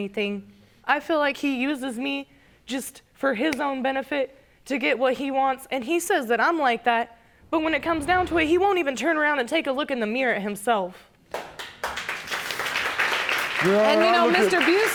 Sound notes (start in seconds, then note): 11.3 audience applauding